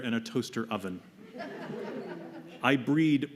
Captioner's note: laughter